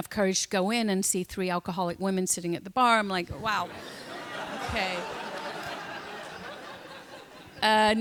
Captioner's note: laughter